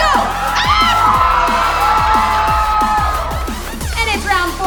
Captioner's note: cheering